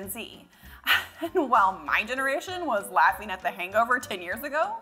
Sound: laughs

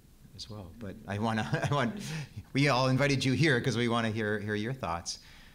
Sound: laugh

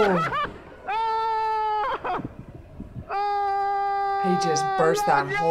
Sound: cameraman screams

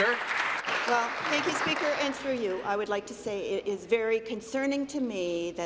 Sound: applause

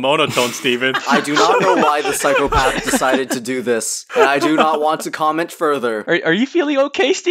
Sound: laugh

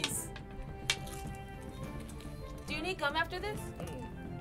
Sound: chewing

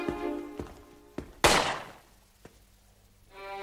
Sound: shot

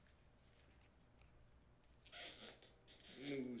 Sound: floor creaking

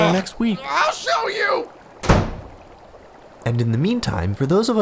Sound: door slam

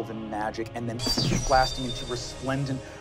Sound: magical sound

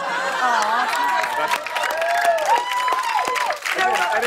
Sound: cheers and applause

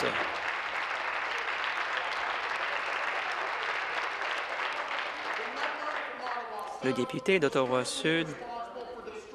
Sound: applause

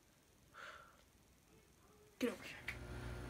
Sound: sighs

